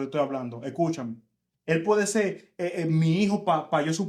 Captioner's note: speaking In Foreign Language